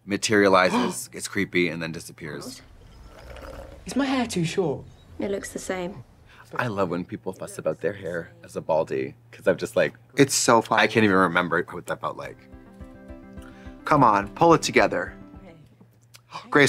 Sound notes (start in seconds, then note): 2.6 Tori slurping; 12.1 lively music